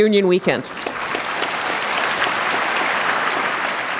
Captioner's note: applause